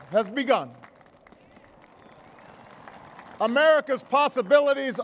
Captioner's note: applause